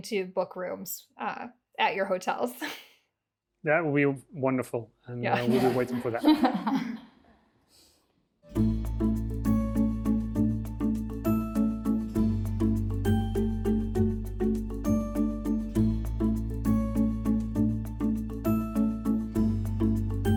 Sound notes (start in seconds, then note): 5.3 laughter